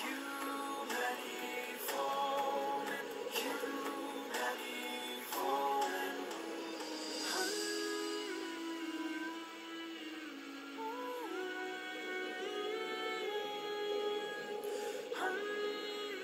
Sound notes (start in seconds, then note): 12.1 humming ensues